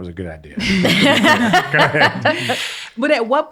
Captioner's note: all laugh